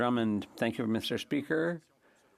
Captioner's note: speaking French